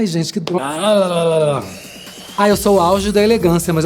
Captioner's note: rolling tongue